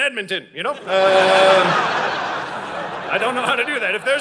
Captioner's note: audience laughing